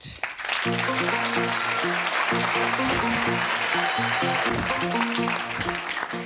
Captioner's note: audience clapping